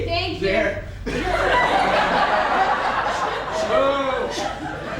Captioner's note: audience laughs